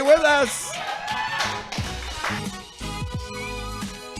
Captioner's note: cheering